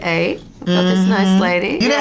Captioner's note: mumbles in agreement